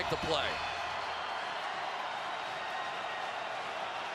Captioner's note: crowd cheering